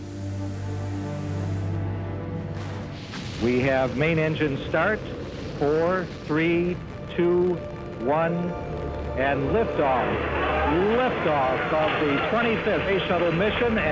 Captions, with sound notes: [ground control over the radio] We have main engines start. Four, three, two, one... and lift off. Lift off of the 25th space shuttle mission,